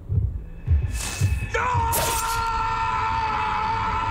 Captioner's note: screaming